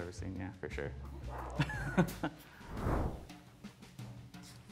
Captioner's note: laughs